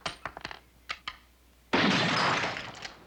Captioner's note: gunfire